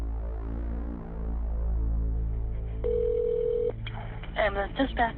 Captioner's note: phone ringing